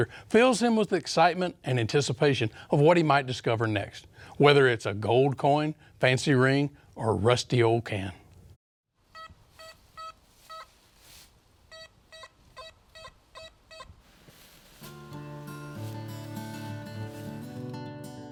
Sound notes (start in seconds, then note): 9.1 detector beeps; 9.3 leaves rustling; 14.6 light folksy music